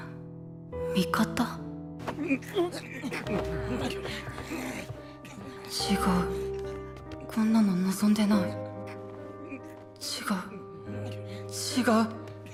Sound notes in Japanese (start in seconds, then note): 2.2 苦しんでいる６人の声